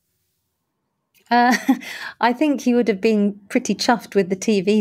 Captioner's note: chuckles